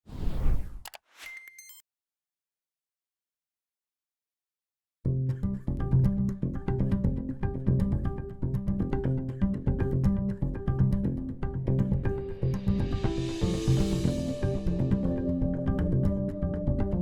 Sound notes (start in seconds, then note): 0.9 robotic dinging; 5.3 light, upbeat music